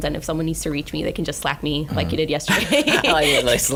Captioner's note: laughing